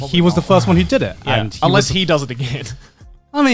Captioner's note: affirmative murmuring